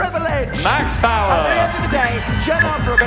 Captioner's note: subway surfer noise playing over Dan